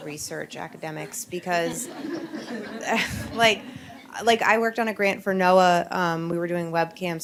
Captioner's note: laughs